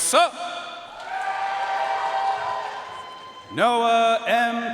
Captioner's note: audience cheering and applauding